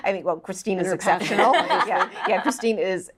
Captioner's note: laughs